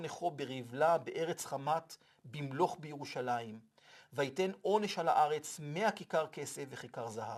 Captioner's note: Hebrew